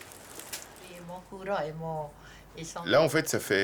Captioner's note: speaking French